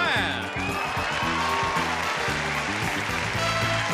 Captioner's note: audience cheering